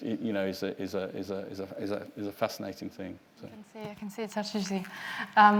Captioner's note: mutters